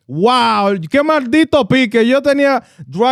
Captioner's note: speaking In Foreign Language